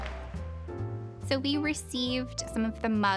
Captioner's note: laughing and clapping